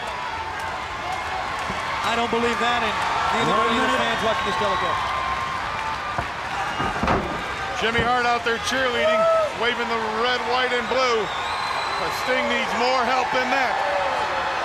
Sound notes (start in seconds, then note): 0.2 crowd cheering continues; 6.0 body slamming